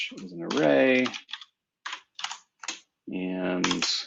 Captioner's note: typing